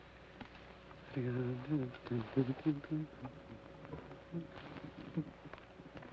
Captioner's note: Joshua hums melodically